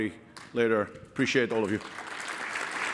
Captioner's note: applause